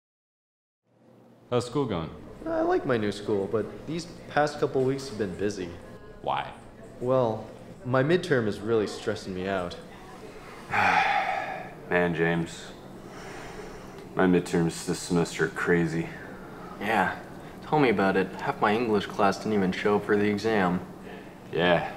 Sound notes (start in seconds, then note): 10.6 sigh